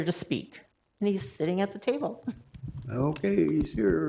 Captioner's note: laughs